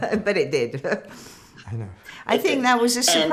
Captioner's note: laughing